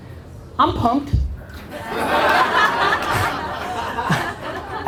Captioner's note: audience laughter